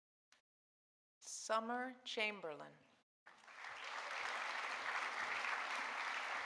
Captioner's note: audience applauding